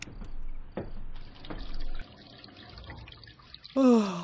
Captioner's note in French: Bruit d'eau